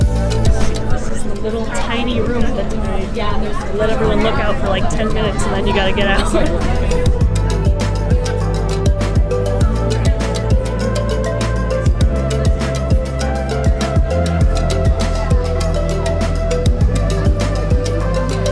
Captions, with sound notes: This is the little tiny room at the top. They let everyone look out for, like, ten minutes, and then you got to get out. [Laughs]